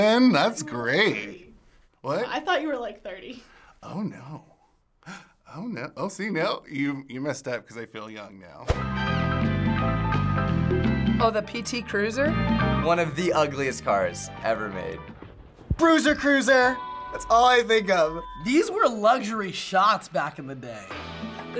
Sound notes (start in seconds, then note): 5.0 gasps; 8.8 upbeat music